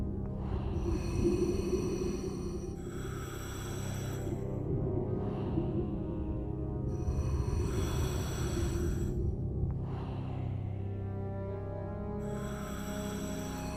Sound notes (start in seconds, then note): none